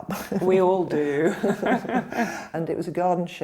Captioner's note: laughter